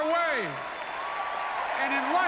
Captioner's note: applause